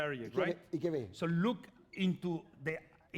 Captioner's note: speaking spanish